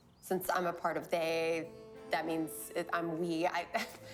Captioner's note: laughs